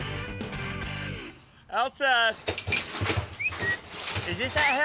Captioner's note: whistles, gate unlocks